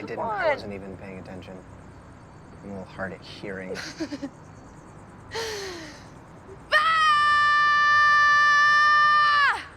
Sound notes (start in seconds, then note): 5.3 inhales; 6.7 loud, long yell